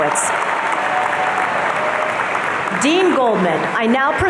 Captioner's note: audience cheering